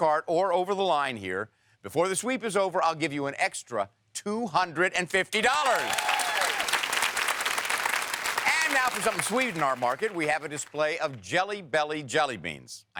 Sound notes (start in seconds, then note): 5.3 audience cheers